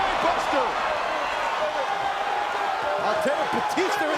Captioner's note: crowd cheering